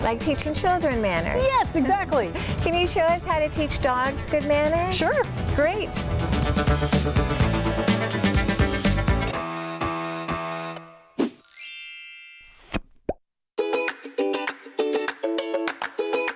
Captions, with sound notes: - Like teaching children manners? - Yes, exactly. - Can you show us how to teach dogs good manners? - Sure. - Great. (upbeat music) (bell chimes) (playful music)